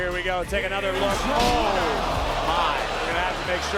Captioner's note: audience gasping